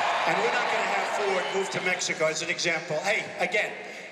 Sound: cheers and applause

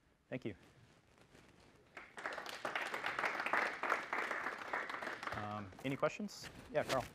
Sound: applause

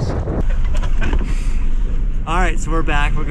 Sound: men chuckling

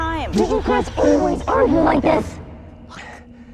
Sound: distorted voice

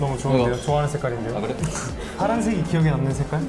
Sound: laughing

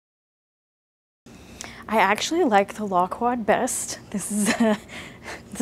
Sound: laughs

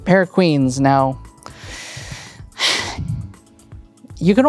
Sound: sighs

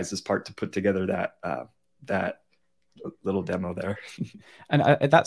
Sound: chuckles

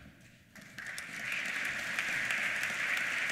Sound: applause

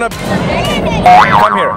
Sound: boinging sound

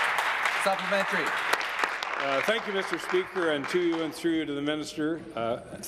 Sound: applause

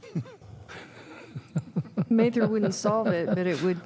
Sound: laughter

